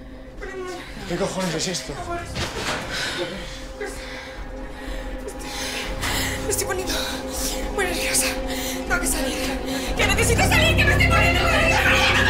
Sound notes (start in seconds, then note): 2.6 stammers; 10.0 yelling